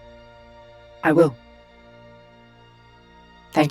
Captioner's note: none